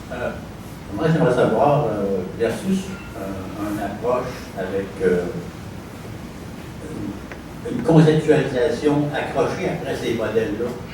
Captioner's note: speaking french